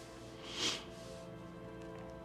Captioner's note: sniffles